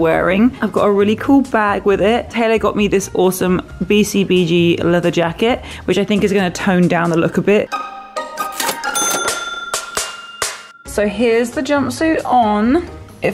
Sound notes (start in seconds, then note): 7.7 upbeat music; 8.4 cha-chinging; 9.6 upbeat music